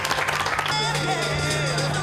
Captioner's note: cheering and applause